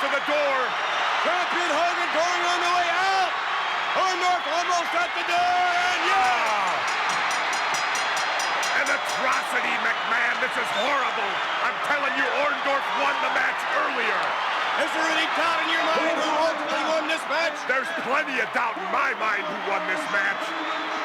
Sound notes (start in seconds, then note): 7.9 bell ringing